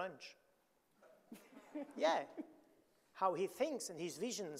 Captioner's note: audience laughing